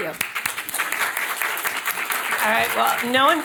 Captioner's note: audience applauding